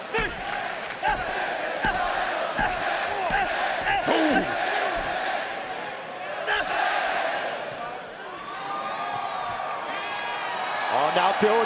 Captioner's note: crowd cheering